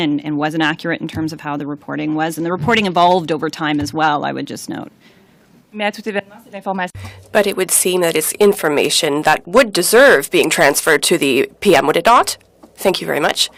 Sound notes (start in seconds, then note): 8.6 speaking in French